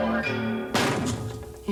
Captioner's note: explosion